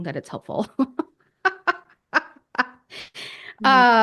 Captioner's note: laughs